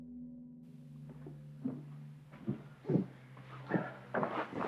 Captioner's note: shoes shuffling